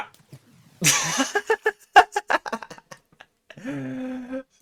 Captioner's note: laughs